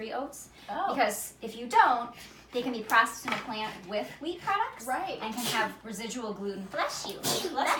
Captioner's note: sneezes in background - bless you!